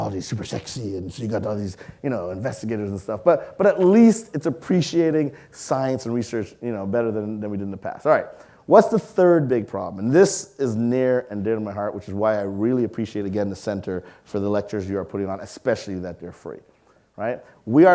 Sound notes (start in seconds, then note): none